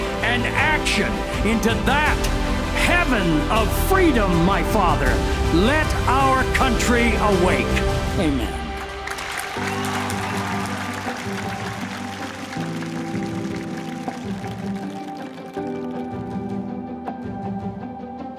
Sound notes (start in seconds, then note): 8.6 audience cheering and applauding; 13.6 uplifting music